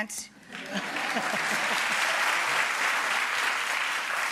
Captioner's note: audience applause